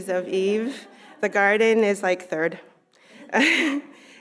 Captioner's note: laughing